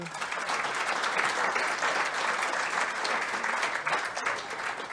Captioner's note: audience applauding